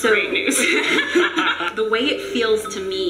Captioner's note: laughs